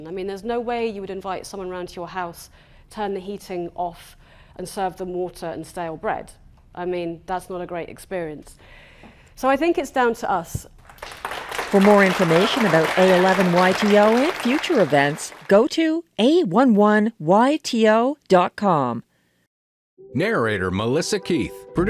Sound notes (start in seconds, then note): 10.8 applause